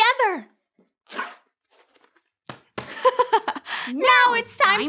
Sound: zipping

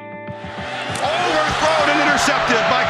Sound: voiceover

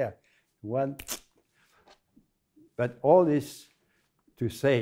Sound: thumb snap

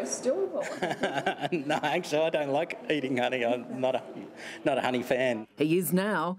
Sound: laughs

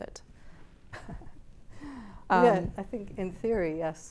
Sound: laughs

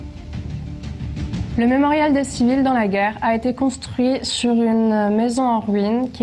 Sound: speaks in a foreign language

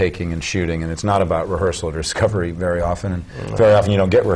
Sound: chuckle

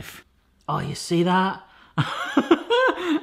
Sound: laughs

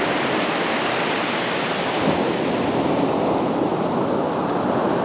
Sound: the sound of the waves grows softer

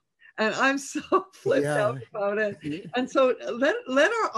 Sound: chuckles

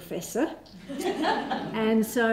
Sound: laughter

